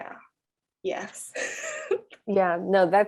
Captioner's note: chuckles